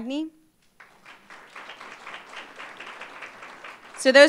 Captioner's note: applause